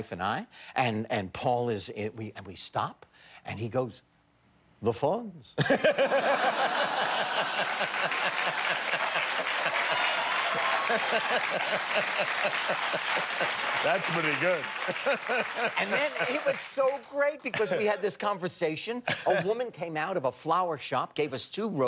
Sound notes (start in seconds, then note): 8.7 laughter; 9.0 cheers and applause